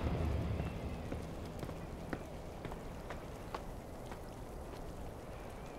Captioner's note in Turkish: Adım sesleri